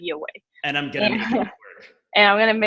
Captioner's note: laughs